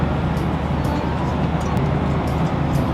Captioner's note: click